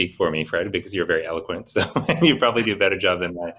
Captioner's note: laughing